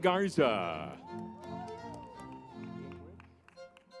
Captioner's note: crowd cheering